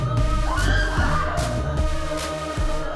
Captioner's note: both screaming; upbeat music